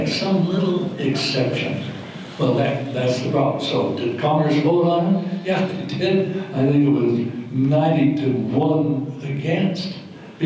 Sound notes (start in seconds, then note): none